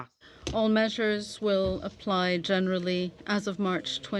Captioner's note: speaking French